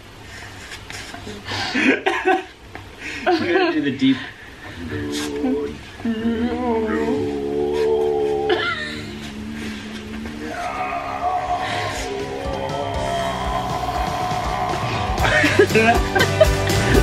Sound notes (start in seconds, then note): 4.6 deep ritualistic humming; 15.1 laughing